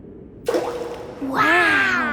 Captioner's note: rock plops